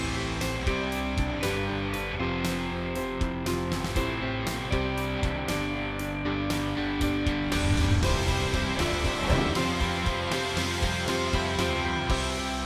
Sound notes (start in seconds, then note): 0.1 bright music; 7.5 clouds whooshing